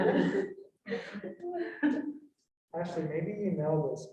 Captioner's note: all laughing